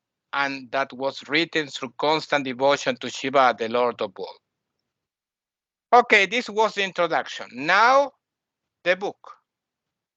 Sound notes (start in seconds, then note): none